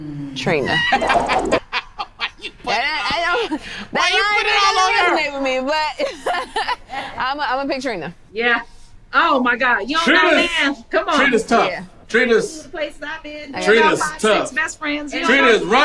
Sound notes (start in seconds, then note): 0.6 man laughing; 6.0 woman laughing